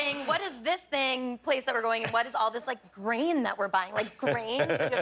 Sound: laughter

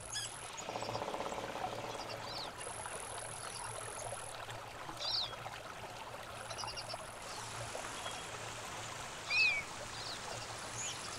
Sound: birds chirping. Water rushing. Marmots whistling

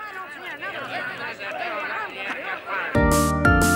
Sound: crowd chatters; upbeat music plays

